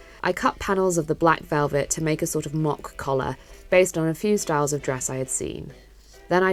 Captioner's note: none